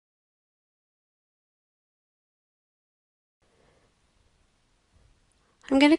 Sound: silent

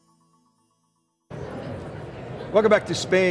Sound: crowd chattering in background

